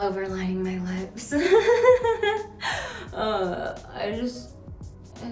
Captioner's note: Vanessa laughing